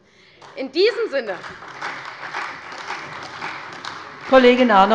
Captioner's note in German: Beifall bei der CDU und dem BÜNDNIS 90/DIE GRÜNEN